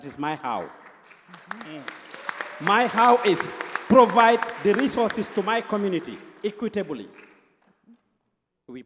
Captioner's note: applause